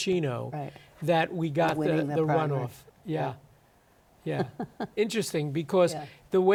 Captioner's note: chuckles